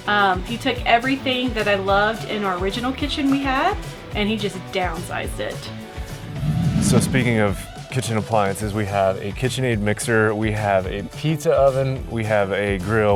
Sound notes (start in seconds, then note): 5.8 graphics swoosh